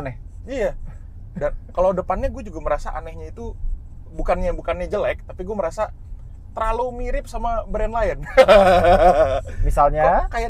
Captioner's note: laughing